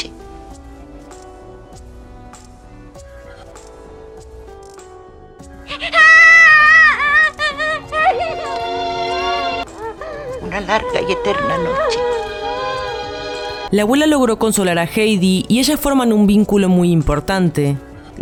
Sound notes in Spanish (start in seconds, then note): 5.7 Llanto